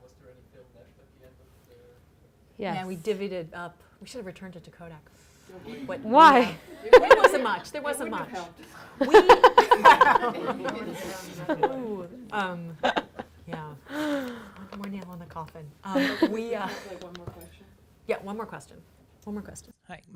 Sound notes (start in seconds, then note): 6.6 laughs; 8.7 laughing